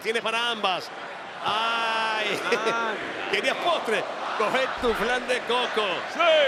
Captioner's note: laugh